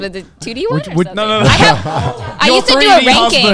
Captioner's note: all laughing